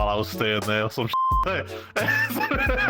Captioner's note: beep